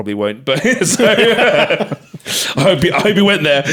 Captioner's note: both laughing